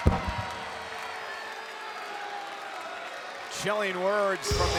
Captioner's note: crowd boos